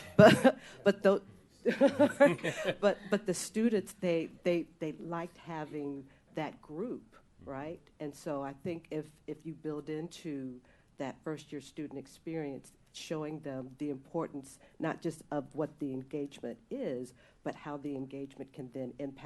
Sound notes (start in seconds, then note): 4.1 laughter